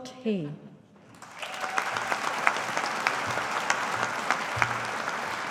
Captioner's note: audience applauding